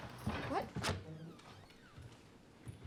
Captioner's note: door opens